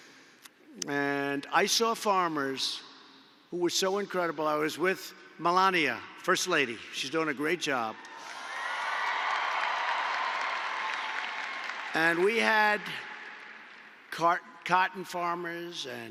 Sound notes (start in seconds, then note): 8.1 applause